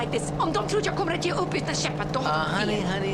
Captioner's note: speaking in foreign language